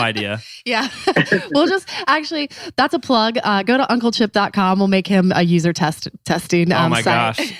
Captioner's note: laughs